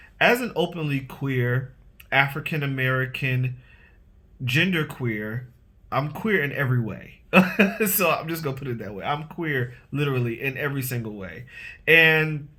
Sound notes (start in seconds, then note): 7.3 laughs